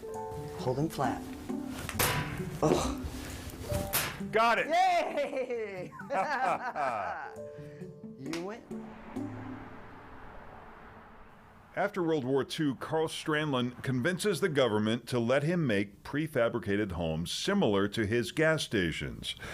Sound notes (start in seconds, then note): 1.8 metal clangs; 2.6 grunts; 3.4 metal clangs; 8.4 both laugh